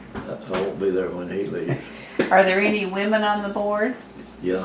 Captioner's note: laughter